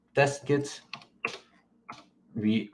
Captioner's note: keyboard clicks